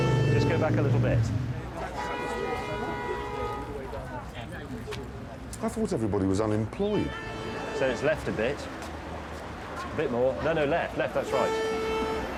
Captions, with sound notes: Just go back a little bit. (CAR HORNS BLARING) I thought everybody was unemployed. So it's left a bit. Bit more. No, no, left. Left, that's right.